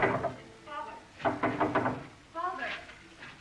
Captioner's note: knocking at door